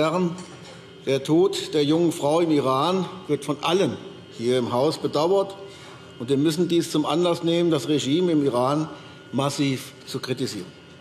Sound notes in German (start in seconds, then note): none